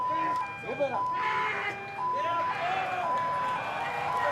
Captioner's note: sirens